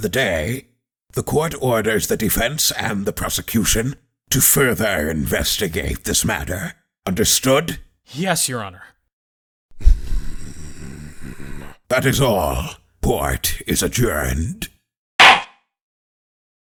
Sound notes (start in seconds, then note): 9.8 growling; 15.2 gavel slams!